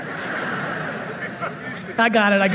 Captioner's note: audience laughing